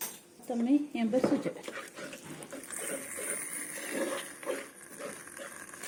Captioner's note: hear the sizzle